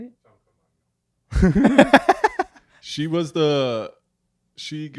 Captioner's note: laughs